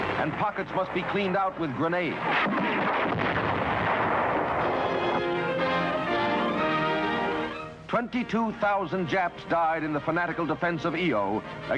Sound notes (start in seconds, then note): 2.0 guns firing; 4.6 upbeat instrumental music